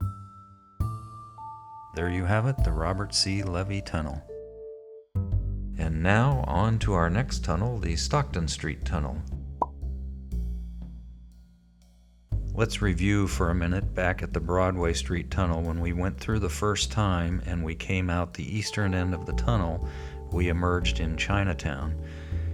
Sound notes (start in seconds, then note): 9.6 popping sound as it appears on the map